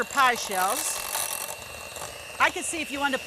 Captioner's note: blender machine roaring